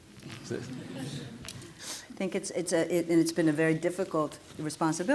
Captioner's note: laughter